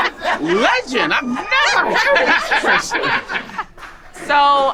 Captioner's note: group laughing